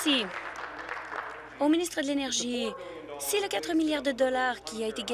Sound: applause

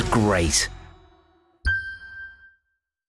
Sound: ding

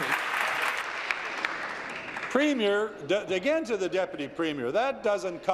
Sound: applause

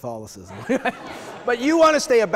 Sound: audience laughing

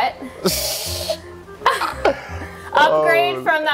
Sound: laughs

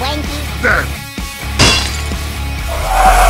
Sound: clink!

